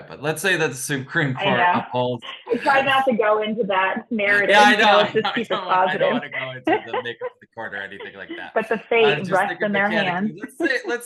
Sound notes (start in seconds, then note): 4.4 overlapping chattering